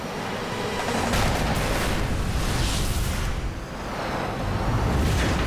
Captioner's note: boom